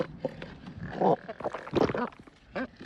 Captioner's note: gulp